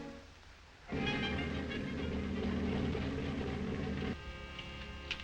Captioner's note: motor running